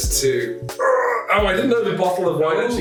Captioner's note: man groans